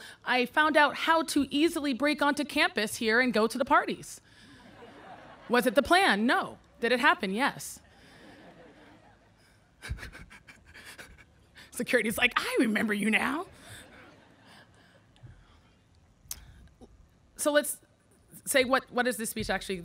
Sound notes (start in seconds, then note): 4.6 audience laughing; 9.8 laughing